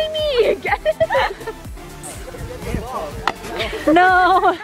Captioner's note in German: lacht